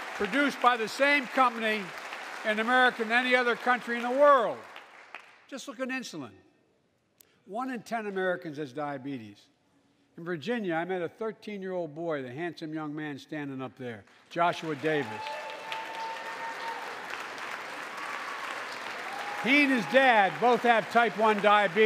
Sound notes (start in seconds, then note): 14.0 applause